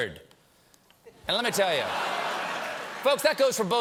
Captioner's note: laughter